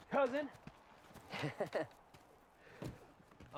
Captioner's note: riendo